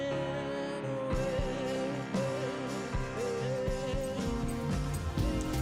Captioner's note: big strong noises of destruction